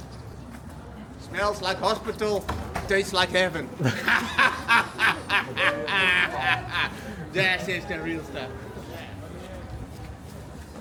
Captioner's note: laughs